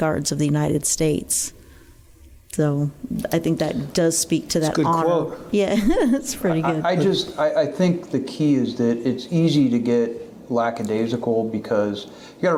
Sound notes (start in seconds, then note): 4.6 laughing